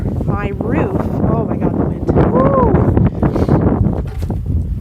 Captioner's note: wind blowing